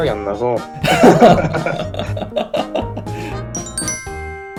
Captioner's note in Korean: 웃음소리